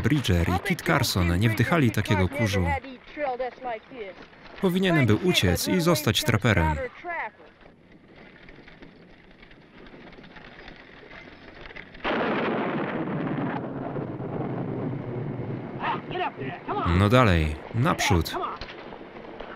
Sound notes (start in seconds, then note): 12.1 thunder roaring